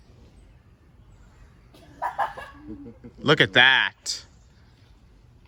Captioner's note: monkey screeches